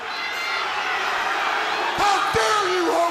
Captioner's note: crowd cheering